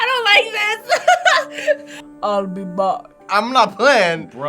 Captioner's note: laughs